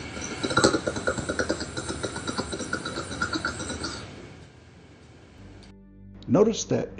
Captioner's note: sound abruptly stops, my breathing continues